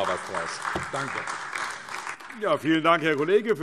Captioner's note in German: Beifall AfD